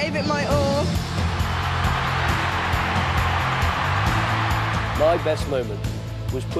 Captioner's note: crowd cheering